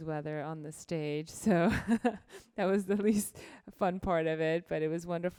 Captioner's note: laughs